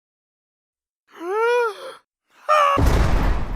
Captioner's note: inhale; jail bars slam